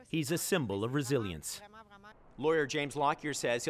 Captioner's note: speaking French